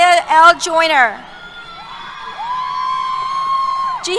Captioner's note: cheers